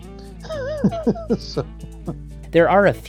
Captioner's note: laughs